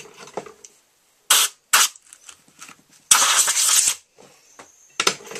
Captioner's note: sounds of compressed air blowing clean